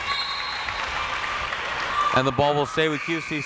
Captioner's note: crowd members shouting; whistle tweeting